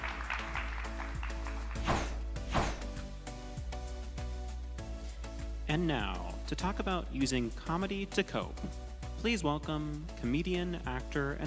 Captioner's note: applause